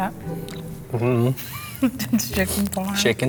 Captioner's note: laughs; laughing